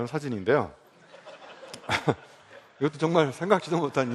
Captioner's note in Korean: 웃음